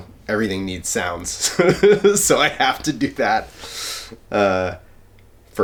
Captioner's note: laughs